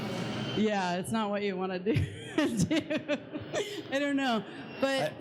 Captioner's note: laughs